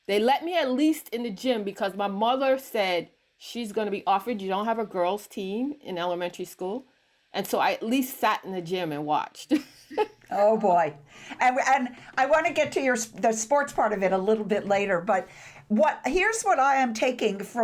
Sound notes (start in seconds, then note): 9.9 laughs